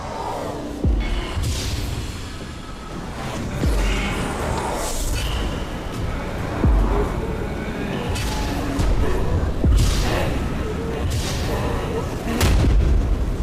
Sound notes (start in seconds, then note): 2.3 TV whooshing; 2.3 soft ominous music; 8.3 monster rasping softly; 8.3 soft ominous music